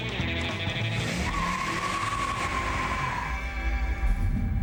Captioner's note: tires screech